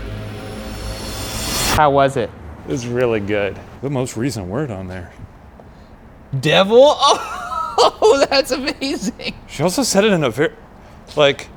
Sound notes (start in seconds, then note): 6.6 laughs